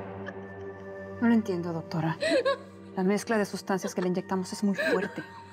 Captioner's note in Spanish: Risas